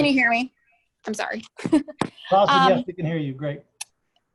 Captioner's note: laughs